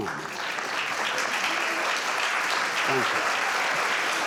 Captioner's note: audience applauds